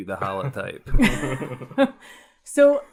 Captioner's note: laugh